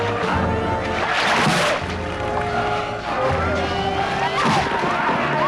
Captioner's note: rock slamming